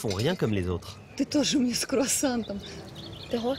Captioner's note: speaks in Russian